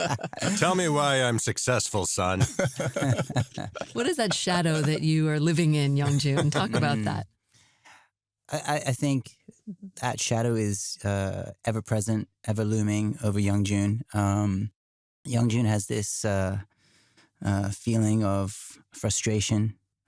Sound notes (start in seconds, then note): 2.2 laughter